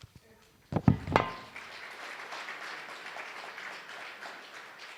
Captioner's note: applause